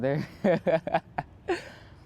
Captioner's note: laughter